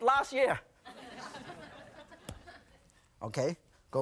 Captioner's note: audience laughing